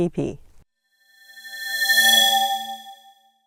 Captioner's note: swoosh